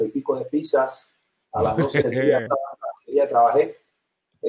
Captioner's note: Risas; sonido entrecortado